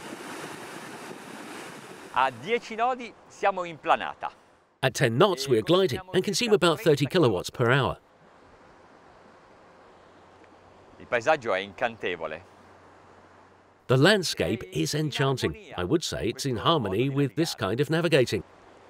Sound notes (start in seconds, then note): 11.6 speaking in foreign language